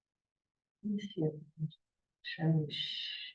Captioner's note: muffled voice